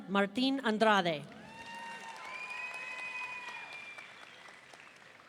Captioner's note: audience cheering